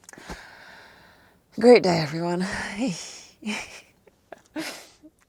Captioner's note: laughs softly